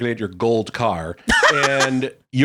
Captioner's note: laughing